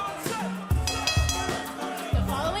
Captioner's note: bell ringing